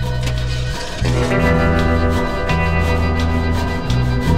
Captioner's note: engine starts